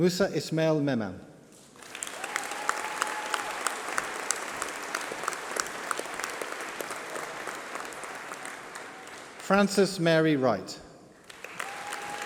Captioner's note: applause